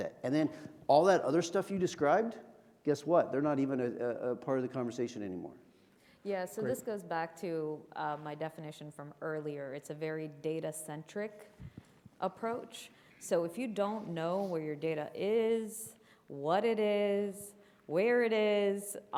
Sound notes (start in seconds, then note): none